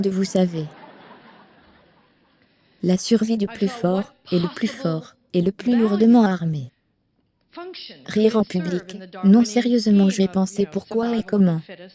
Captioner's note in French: audience riant